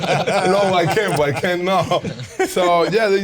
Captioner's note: all laughing; chuckles